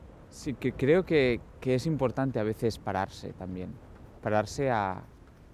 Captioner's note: speaking in foreign language